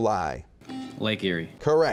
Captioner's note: buzzing